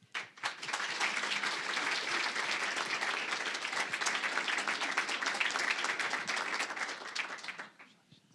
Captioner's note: applause